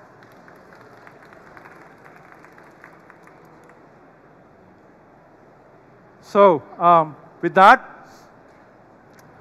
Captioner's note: applause